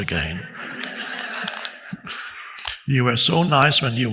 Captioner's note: audience laughing loudly